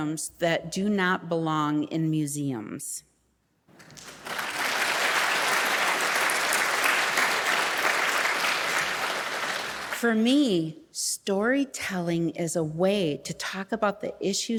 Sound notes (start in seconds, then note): 3.7 audience applauding